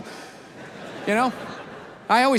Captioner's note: audience laughs